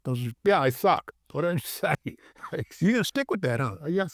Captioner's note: chuckles